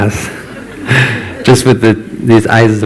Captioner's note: laughter